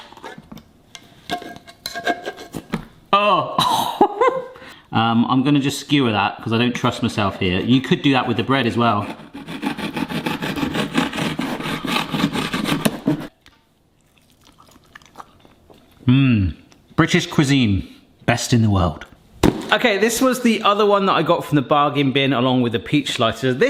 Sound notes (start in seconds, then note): 0.2 can clinking; 4.0 laughs; 9.0 knife slicing; 13.9 chewing